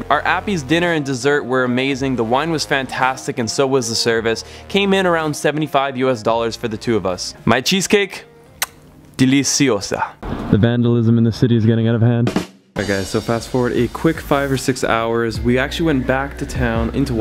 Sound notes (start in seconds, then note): 8.5 lips smacking on fingers; 9.2 speaks foreign language; 12.7 drum sting